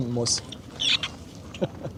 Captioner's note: squeak